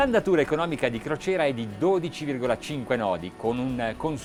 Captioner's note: speaking Italian